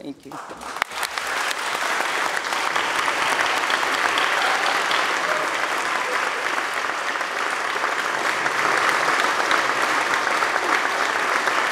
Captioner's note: applause